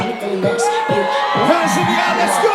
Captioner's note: crowd cheers